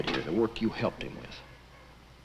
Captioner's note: none